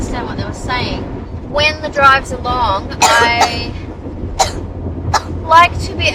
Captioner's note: coughs, still recovering from cold